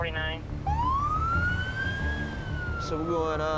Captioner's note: sirens blaring